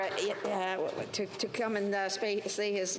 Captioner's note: applause